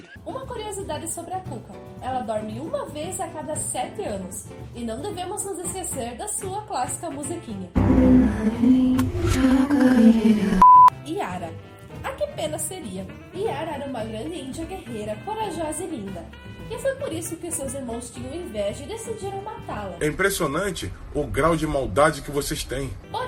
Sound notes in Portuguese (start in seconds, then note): 10.5 bip